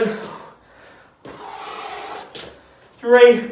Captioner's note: exhales sharply